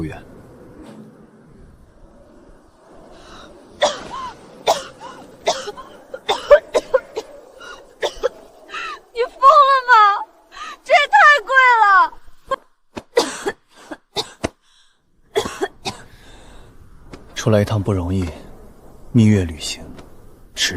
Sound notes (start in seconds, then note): 4.6 cough, cough